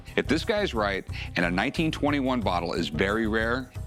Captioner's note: none